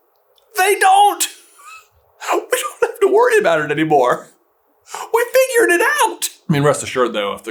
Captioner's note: laughs joyously